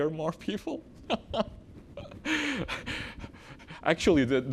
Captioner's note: laughs